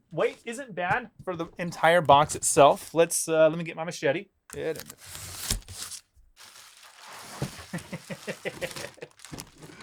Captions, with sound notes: Wait, isn't that for the entire box itself? Let me get my machete. Get it. (laughing)